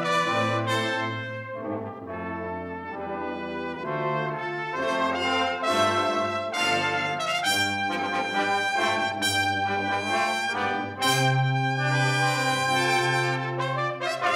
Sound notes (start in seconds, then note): none